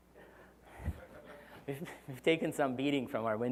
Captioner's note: laugh